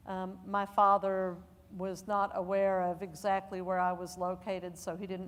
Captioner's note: none